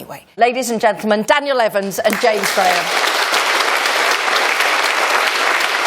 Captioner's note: applause